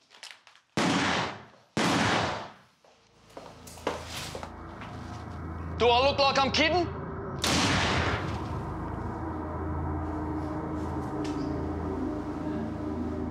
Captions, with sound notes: (gun firing) - Do I look like I'm kidding? (gun fires) (dark music)